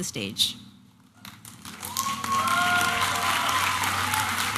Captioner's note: applause and cheering